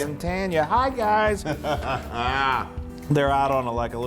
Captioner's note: laugh